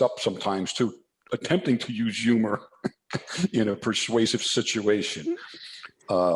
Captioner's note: laughs